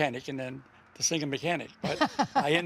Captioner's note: laughs